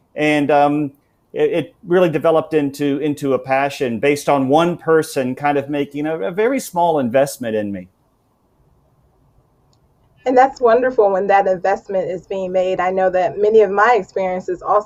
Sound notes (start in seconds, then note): none